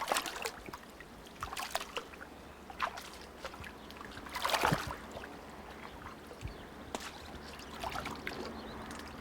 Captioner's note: water splashing